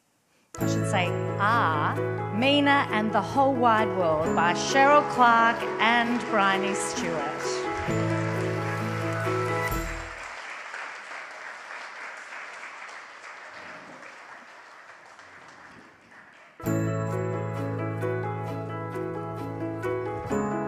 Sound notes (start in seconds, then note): 7.3 audience applauds continue; 16.6 bright inspirational music